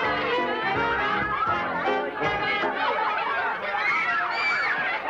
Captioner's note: children shouting